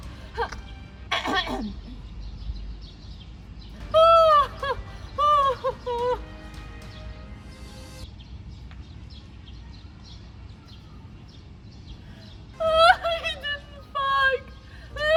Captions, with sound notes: *annoyed royal coughs* OHHHHOHHH OHOHOOOOH LEAR *sobs* It didn't fog!